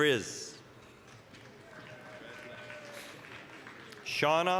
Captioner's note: applause, cheering